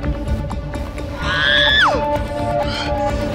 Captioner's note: Screams